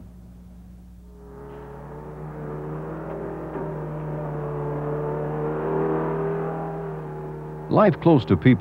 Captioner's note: machinery sounds